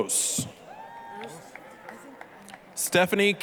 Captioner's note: applause, cheering